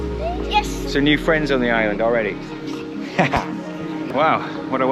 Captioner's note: laughing